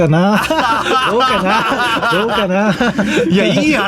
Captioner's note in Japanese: 笑い